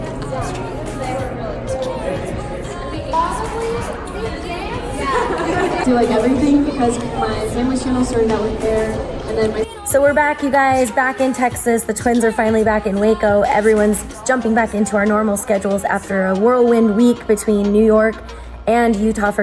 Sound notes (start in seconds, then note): 3.3 crowd chatting